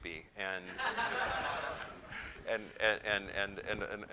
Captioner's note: laughter